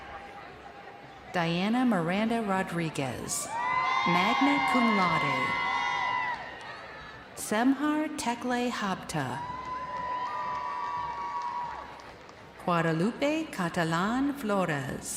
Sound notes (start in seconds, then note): 4.9 crowd cheering